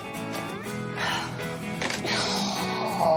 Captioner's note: sighs